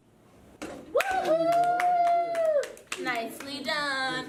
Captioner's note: woman cheering